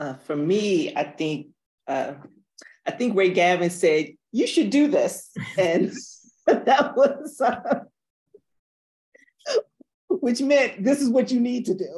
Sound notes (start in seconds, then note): 5.7 laughs; 6.5 chuckles; 7.4 laughs